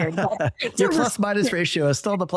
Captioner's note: both laugh